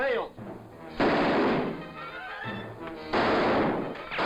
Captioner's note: gun fires